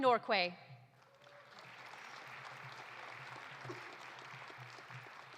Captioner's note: audience applauding